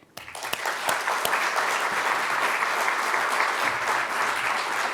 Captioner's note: audience clapping